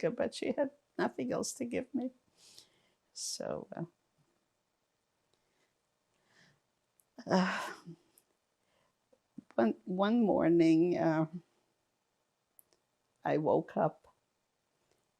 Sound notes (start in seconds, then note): 3.9 pauses 6 seconds